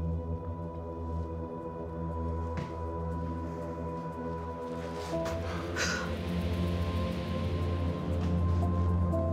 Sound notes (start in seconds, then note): 4.9 Eva gasping